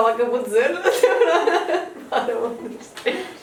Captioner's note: laughs